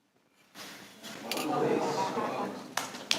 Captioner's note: everyone "ooh"s; all applauding